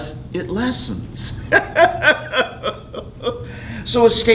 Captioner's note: laughing